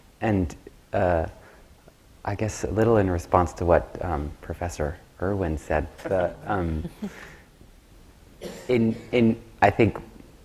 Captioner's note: laughter from the panel